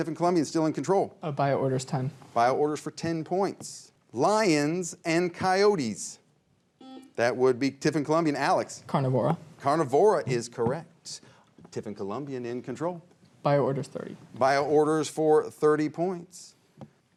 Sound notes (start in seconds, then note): 6.6 buzzer rings